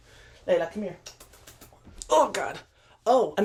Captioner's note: kisses